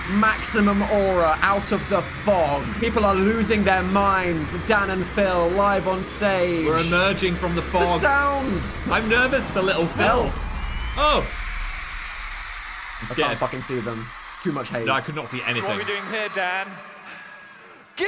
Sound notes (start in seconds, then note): 11.8 audience cheering